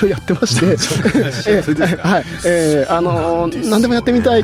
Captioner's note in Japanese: 笑い